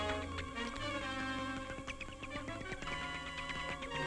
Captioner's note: bats chirping